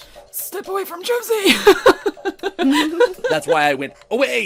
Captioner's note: strained; laughter; laughs